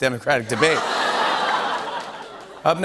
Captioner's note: laughter, ohhing